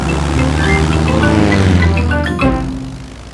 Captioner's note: plane engine revving